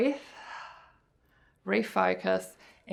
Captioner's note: exhales